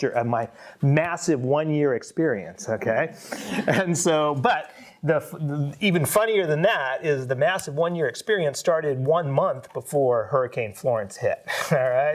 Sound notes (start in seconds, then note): 3.7 audience laughs